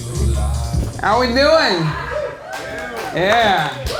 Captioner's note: crowd claps and hollers